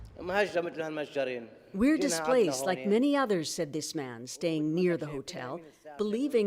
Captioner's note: speaking alternate language